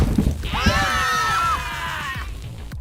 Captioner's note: screams